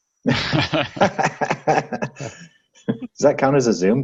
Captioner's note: laughing